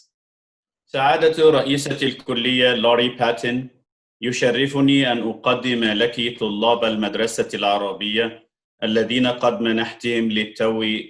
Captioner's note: speaks in Arabic